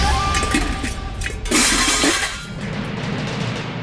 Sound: clanging

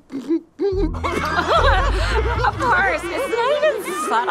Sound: crowd laughing

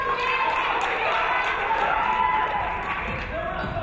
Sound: audience clapping

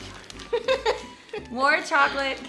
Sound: laughing

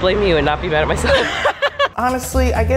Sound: laughter

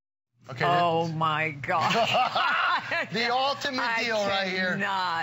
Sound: laughter

